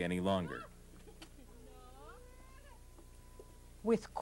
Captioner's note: people talking